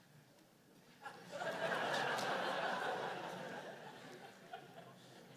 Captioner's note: laughter